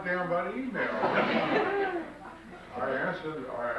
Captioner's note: audience laughs